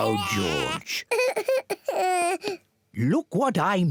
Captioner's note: cries